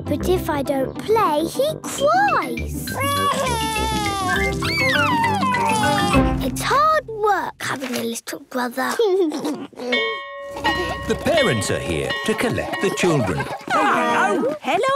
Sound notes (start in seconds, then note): 3.0 crying; 9.0 giggles; 10.0 bell ringing